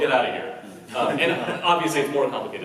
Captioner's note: laughs